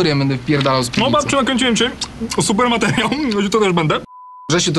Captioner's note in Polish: odgłosy mlasakania